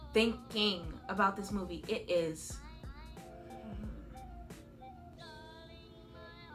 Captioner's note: groans softly and contemplates